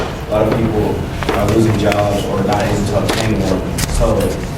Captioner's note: speaking faintly